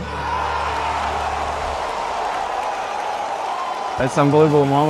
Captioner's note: cheering